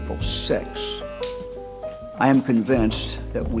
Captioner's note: clippers switch off